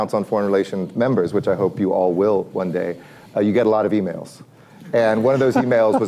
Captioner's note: laughter